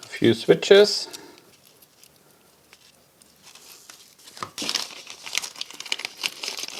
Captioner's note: plastic crinkling